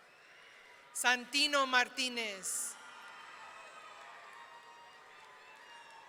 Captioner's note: audience cheering